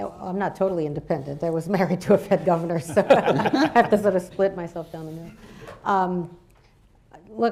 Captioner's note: laughter